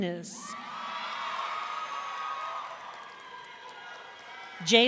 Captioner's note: audience cheering